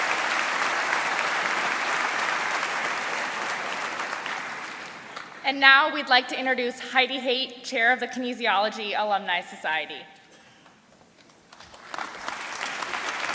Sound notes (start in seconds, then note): 0.0 applause